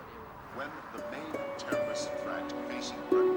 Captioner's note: man On Radio